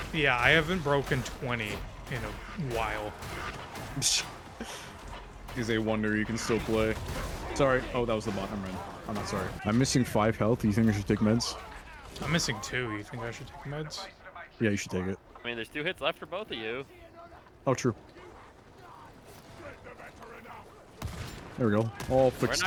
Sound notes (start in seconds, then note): 5.3 scoffs